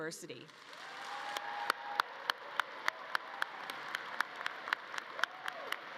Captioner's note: audience cheering and clapping